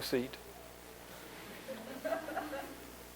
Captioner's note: laughter